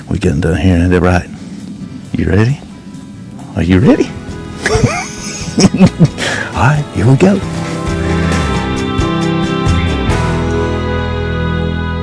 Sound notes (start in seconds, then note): 4.6 both laughing; 8.2 lively music